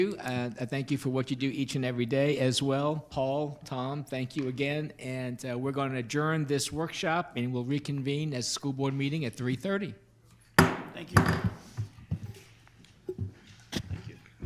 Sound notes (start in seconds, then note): 10.6 gavel bangs